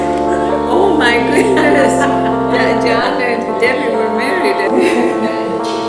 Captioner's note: laughter